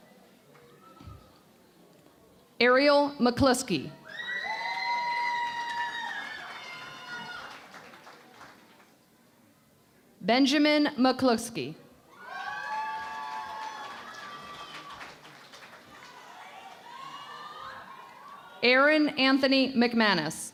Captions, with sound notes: Ariel McCluskey. [ Cheering and Applause ] Benjamin McCluskey. [ Cheering and Applause ] Aaron Anthony McManus.